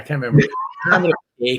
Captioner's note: laughing